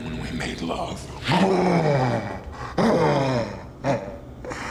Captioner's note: growls, grunts